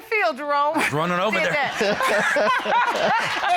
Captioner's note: laughter